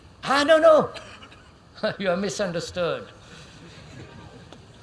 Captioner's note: laughs